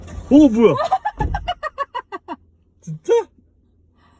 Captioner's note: A somewhat frivolous laughter🫢